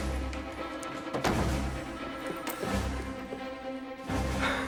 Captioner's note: door bangs